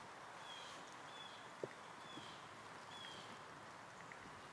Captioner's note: birds chirping